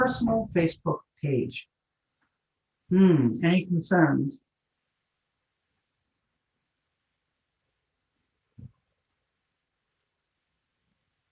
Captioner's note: pause